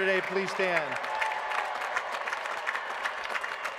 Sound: applause

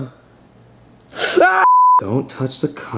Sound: tone beeps; Junior screaming; tone beeps

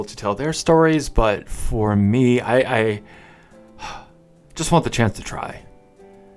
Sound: sigh

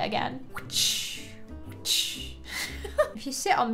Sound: makes whipping sounds

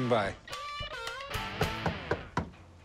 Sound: knocking

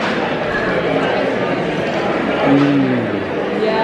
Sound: lively background chatter

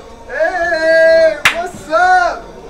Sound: hand slapping

